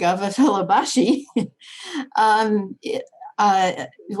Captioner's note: chuckles